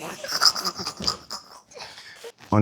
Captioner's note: laughs